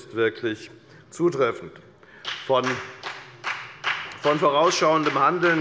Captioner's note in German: Beifall bei der FDP